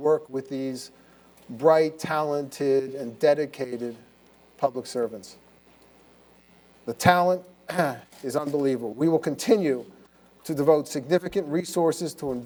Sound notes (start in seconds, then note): 7.7 cough